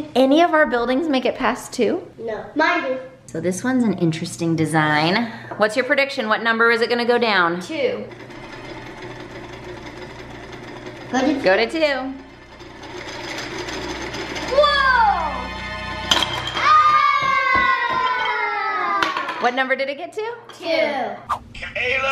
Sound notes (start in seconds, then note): 8.0 rattling; 8.5 suspense music; 15.1 exclaims